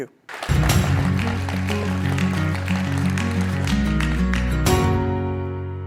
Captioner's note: applause